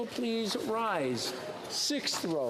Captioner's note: speaking FRENCH